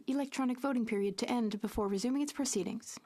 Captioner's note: speaking French